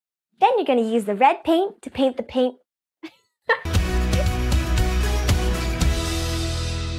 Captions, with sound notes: - Then you're gonna use the red paint to paint the paint. (laughs) (upbeat music)